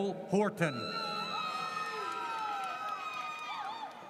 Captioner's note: audience cheers